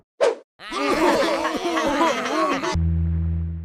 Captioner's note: laughing